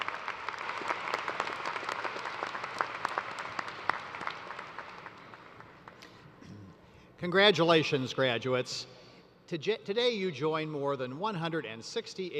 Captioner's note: applause